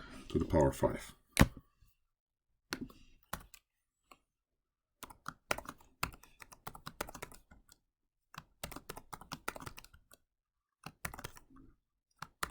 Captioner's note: typing